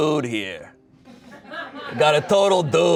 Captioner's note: audience laughing